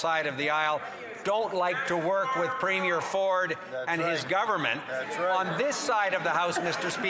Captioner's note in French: voix de l'interprète